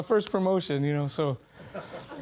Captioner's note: audience laughing